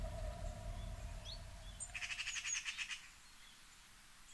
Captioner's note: birds chirp